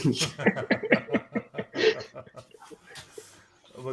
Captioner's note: laughter